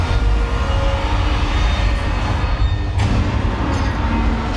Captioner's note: metal creaking